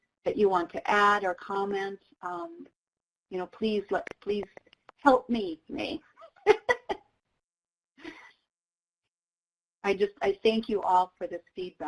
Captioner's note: laughs